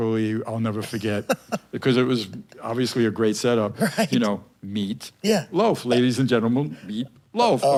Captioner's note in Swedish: skratt